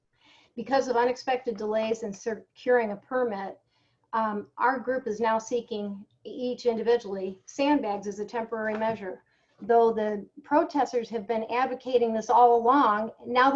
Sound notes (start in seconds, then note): none